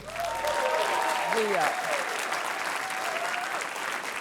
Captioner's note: applause, cheering